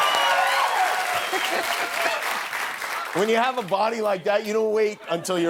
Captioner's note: cheers and applause